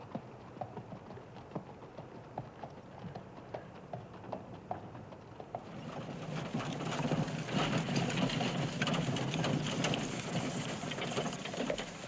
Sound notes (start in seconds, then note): 5.7 wagon rattling